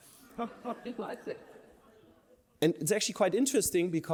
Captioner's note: laughter